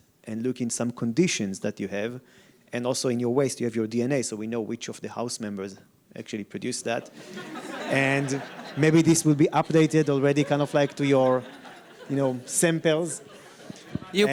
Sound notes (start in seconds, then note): 7.3 audience laughs